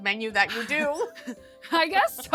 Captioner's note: chuckling